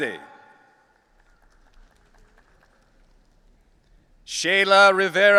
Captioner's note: audience applauding